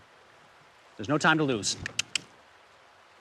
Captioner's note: clicks tongue